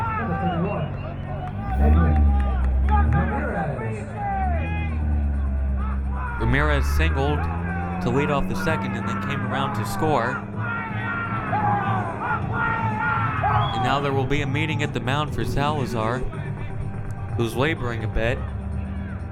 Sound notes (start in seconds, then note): 11.2 crowd cheering